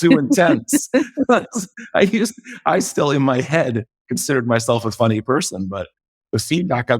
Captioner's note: laugh